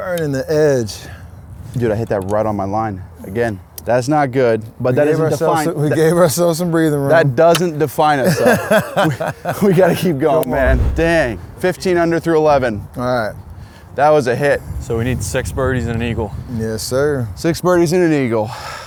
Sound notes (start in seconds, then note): 8.7 laughs